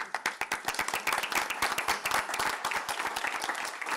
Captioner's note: applause